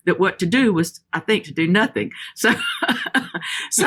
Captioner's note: laughs